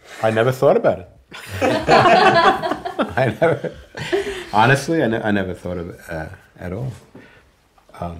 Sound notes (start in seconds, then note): 1.3 all laughing